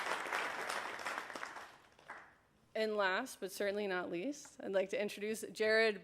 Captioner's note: applause